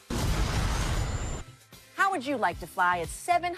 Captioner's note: jet roaring